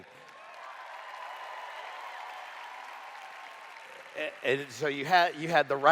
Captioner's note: cheers